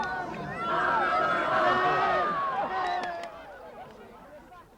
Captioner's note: crowd cheering